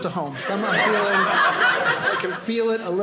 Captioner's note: audience laughing